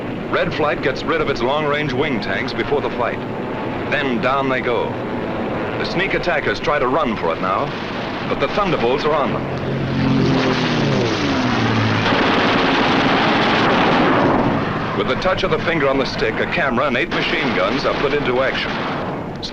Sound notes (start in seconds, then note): 12.0 guns firing